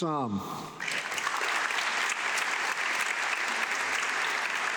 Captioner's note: audience clapping